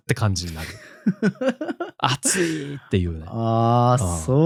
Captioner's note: laughs